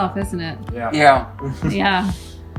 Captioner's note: chuckles